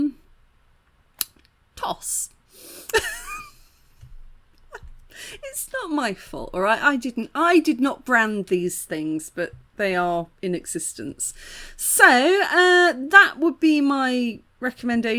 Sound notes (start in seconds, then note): 2.9 laughing